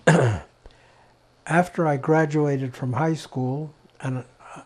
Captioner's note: clears throat